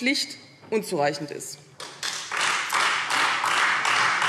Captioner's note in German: Beifall Freie Demokraten